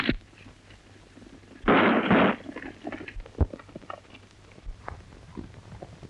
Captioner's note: gun shots